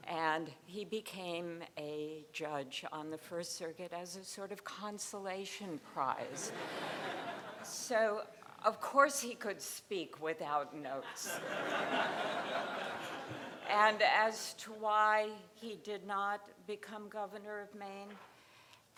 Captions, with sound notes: and he became a judge on the First Circuit as a sort of consolation prize. So, of course he could speak without notes. (crowd laughing) And as to why he did not become governor of Maine,